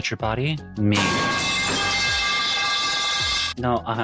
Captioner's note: pipes clanging